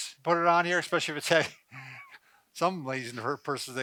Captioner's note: laughs; laughs